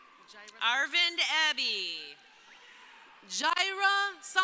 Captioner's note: crowd cheering